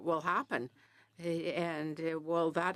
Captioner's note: speaking French